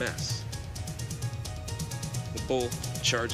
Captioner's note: intense fast music; loud pounding